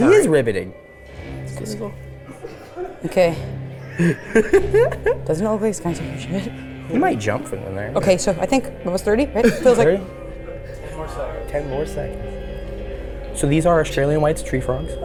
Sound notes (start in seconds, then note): 2.5 tense music; 3.8 laughing